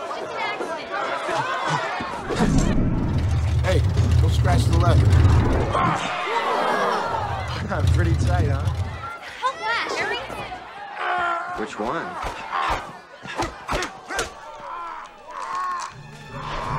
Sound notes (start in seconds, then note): 2.2 car revving sound; 6.3 crowd "woahs" appreciatively; 13.4 slappy and punchy noises; 14.6 Flash groans in agony